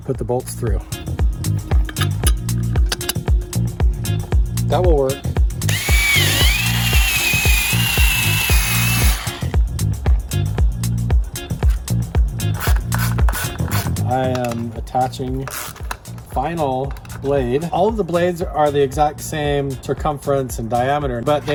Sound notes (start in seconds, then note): 1.1 upbeat techno music; 5.6 saw whirring; 9.7 upbeat techno music